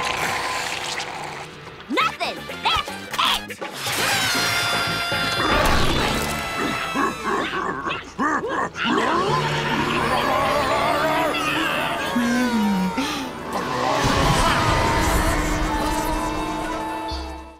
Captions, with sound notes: Nothing! That's it! [grunting] - Oh... - Pretty.